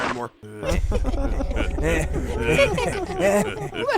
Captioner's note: evil chuckling